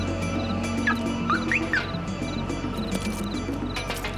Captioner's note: car beeping